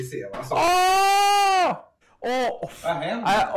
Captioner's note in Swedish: Lena skriker